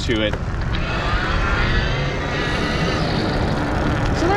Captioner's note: wheels whirring